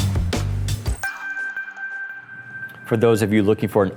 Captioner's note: chimes